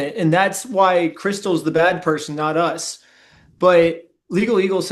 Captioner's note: bam